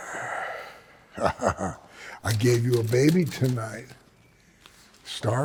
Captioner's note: chuckles